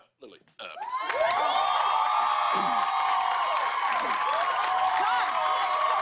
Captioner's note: cheers and applause